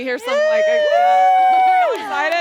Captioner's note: audience applauding; panel members applauding